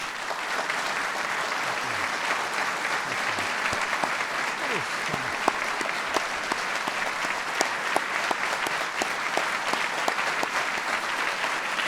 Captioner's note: applause